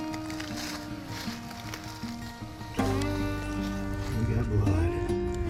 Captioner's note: leaves rustling; cheerful music continues